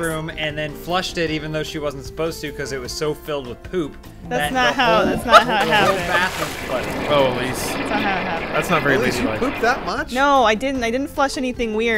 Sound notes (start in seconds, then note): 4.9 yipping laughter; 6.9 ominous plumbing noises